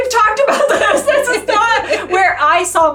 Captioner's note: both laughing